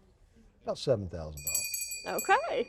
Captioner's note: bell rings